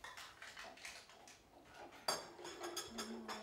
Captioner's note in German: Geräusche von Kaffeegeschirr und leises Stimmengemurmel